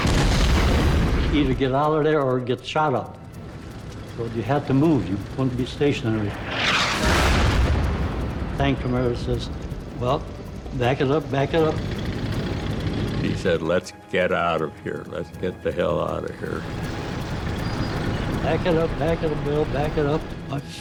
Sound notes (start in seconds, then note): 0.0 tank explodes; 6.2 tank explodes; 11.7 tank track whirring; 17.0 tank engine whirring